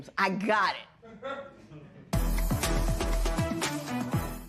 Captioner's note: laughter